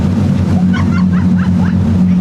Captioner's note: laugh